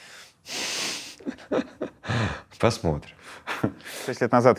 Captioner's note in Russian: Смеясь